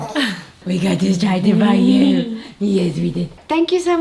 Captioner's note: mumbling